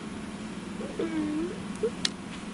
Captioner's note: strange voice